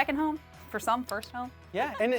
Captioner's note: laughs